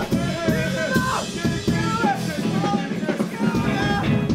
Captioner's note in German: lacht